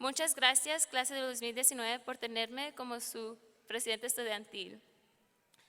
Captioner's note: speaking in foreign language